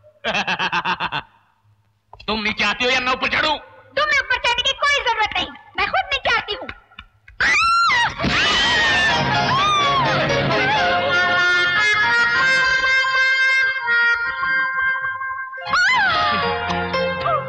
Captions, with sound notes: [Laughing] Will you come down, or should I walk up? You don't need to come up. I am coming down myself. [Yelling] [Groaning]